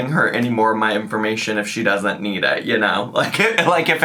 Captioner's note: laughs